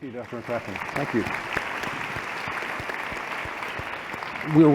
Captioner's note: applause